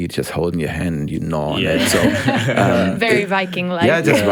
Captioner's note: group laughs